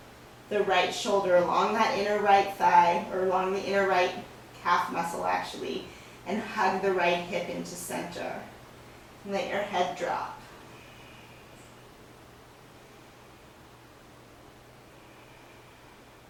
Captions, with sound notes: the right shoulder along that inner right thigh, or along the inner right calf muscle, actually, and hug the right hip into center. And let your head drop. (breathing sounds)